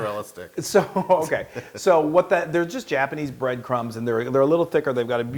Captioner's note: laugh